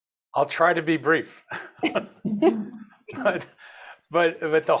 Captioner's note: attendees chuckle